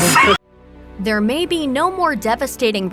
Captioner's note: laughing